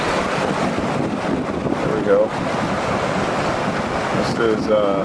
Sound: water rushing

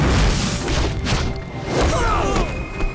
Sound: grunting

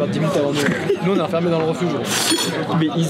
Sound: laugh

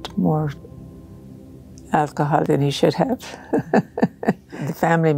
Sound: laughing

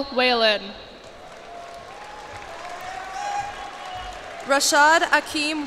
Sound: cheers and applause

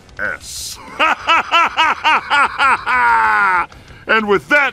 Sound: evil laugh

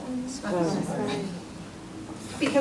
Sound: voiceover

